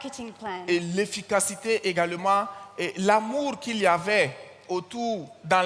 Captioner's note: continues in French